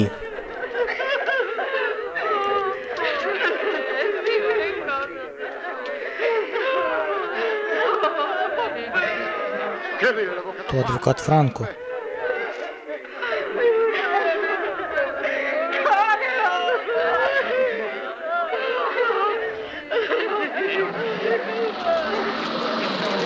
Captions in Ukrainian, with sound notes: (ПЛАЧ) Це ж адвокат Франко. (ПЛАЧ)